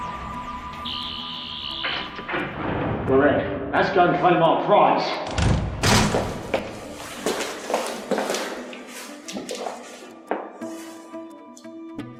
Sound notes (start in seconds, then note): 1.8 buzzing and unlocking sounds from behind door; 5.2 door opening sounds